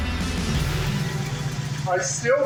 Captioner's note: engine idling